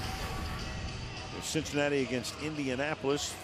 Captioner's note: swoosh